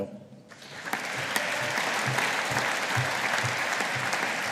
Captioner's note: audience applauding